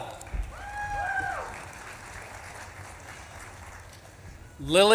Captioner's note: audience claps and cheers